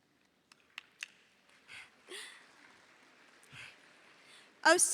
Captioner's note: audience applauding